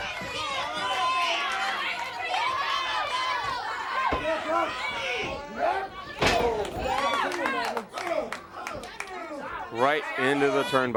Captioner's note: crowd cheering